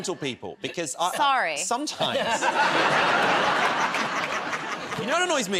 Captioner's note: laughter